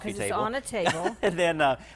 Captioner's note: laughs